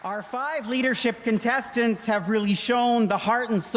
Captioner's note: applause